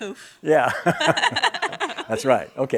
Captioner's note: laughing